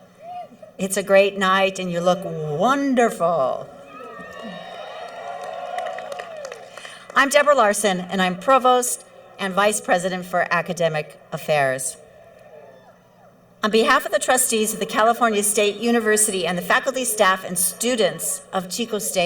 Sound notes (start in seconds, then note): 3.8 cheering